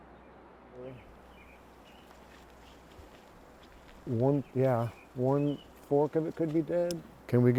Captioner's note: tree climbers talking